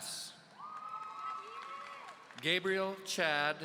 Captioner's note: audience cheering